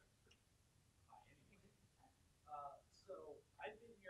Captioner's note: man murmuring